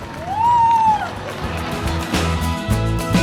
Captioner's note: cheering; upbeat music